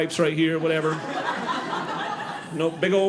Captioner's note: audience laughing